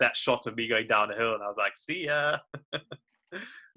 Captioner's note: laughs